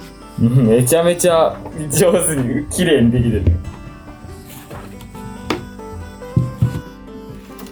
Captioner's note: laughs